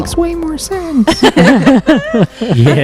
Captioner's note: laughter